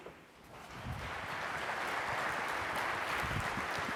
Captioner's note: applause